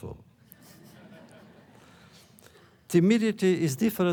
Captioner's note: laughter